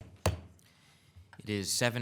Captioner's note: gavel pounding